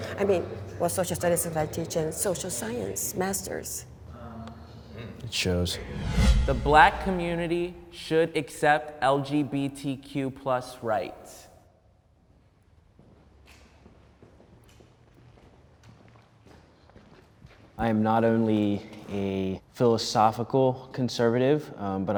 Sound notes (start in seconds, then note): 5.6 air whooshing; 13.8 footsteps thumping